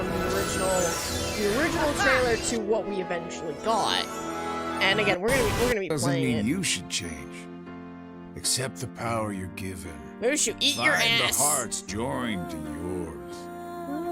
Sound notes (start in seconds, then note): 5.7 trailer noises